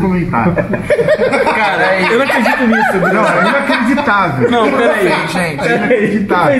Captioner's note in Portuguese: risadas